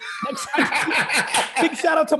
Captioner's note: laughing